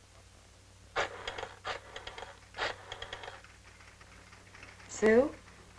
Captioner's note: rotary dialing